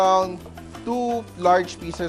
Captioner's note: sizzle